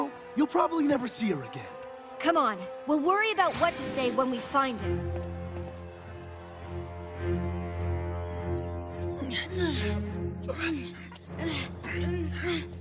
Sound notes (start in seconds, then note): 10.5 Atlanta and Archie grunting